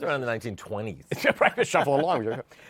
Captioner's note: laughter